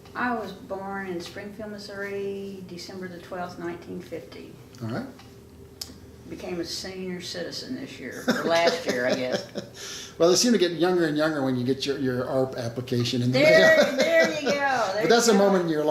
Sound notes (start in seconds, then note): 8.2 laughing; 13.4 laughing